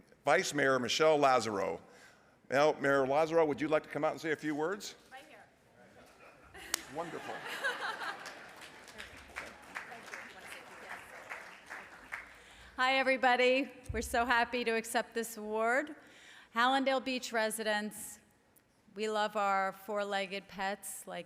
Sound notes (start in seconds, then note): 7.9 laughter; 8.9 applause